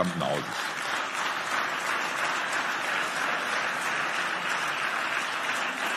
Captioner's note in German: Beifall